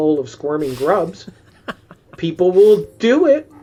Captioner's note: laughs